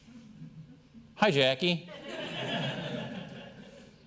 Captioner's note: laughter